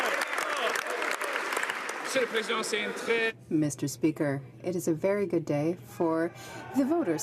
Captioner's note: some Applause